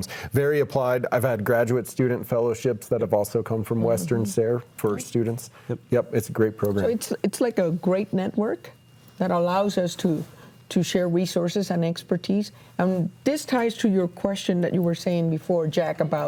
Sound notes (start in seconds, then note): none